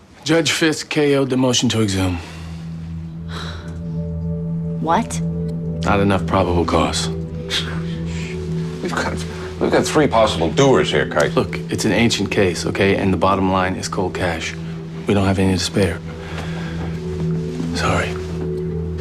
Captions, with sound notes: Judge Fisk KO'd the motion to exhume. [sighs] What? Not enough probable cau. [scoffs] We got.. We've got three possible doers here, Kite. Look, it's an ancient case, okay? And the bottom line is cold cash. 'We don't have any to spare.' Sorry.